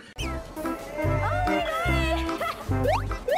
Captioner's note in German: intern schreit